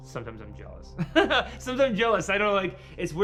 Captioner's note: laughs